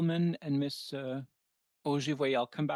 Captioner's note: speaking French